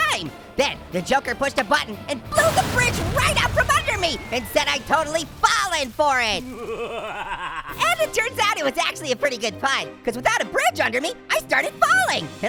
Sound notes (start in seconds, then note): 6.1 Joker evilly laughing